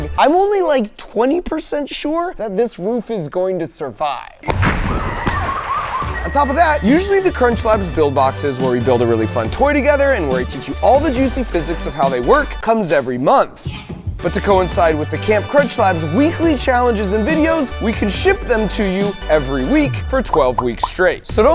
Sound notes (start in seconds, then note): 4.4 objects banging